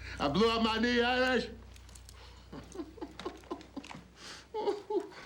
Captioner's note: laughs